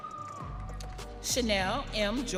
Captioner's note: audience cheering